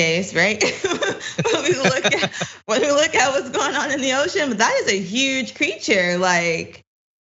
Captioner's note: laugh